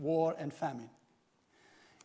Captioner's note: none